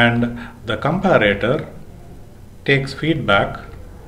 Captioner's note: feedback